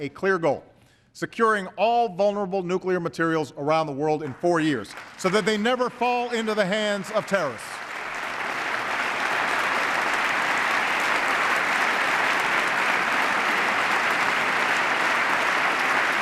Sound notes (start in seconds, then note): 12.4 applause